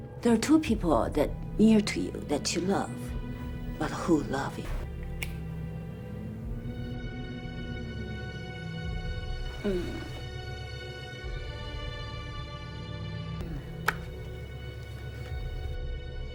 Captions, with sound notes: - There are two people near to you that you love, but who love each other. (thrilling music) (woman moaning)